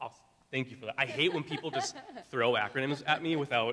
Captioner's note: laughing